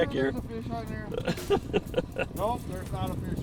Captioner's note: laughs